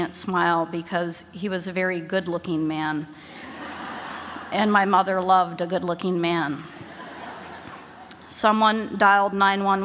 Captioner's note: laughter